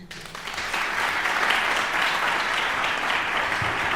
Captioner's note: audience applauding